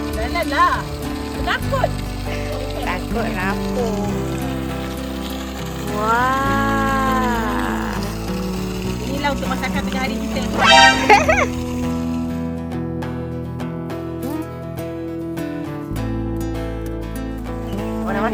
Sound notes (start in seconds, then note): 10.8 laugh; 12.5 background music